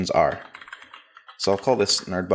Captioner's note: keyboard clacking